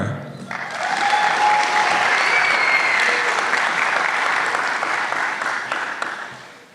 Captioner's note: applause